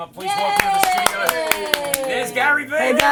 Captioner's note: cheering